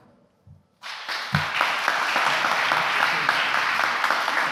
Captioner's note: applause